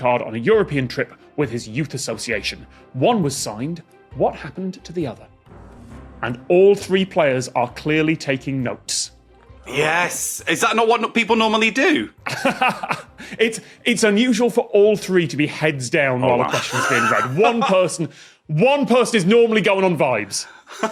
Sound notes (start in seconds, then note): 12.6 laughs